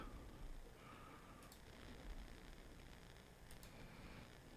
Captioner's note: mouse clicking